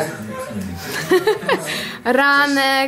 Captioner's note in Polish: śmiech